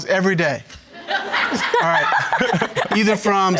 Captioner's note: all laughing